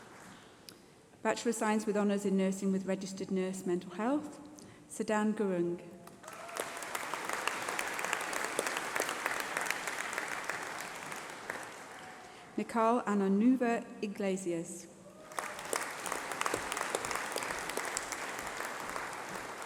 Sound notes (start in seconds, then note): 6.0 applause